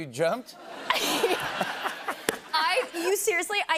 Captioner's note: laughter